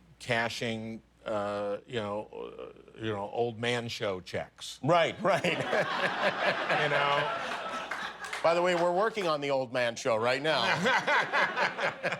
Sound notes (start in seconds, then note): 7.2 laughter